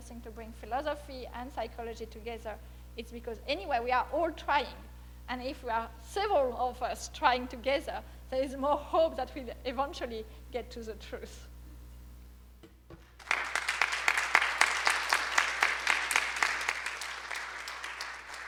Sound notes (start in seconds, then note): 13.2 audience applause